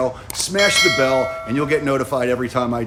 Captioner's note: bell dings